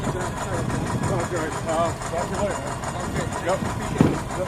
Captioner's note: speaking faintly